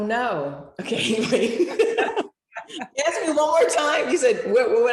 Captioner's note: all laughing